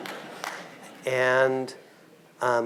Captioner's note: audience clapping; audience laughing